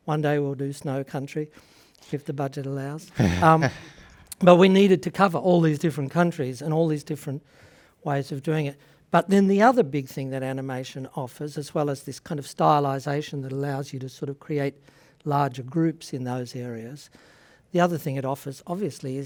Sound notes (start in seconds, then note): 3.1 laughs